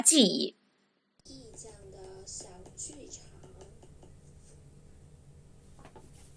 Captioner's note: voice from ipad